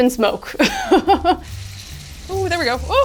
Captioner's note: laughs